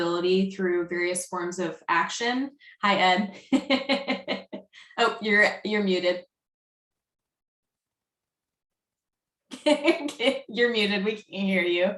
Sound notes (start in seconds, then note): 10.2 chuckles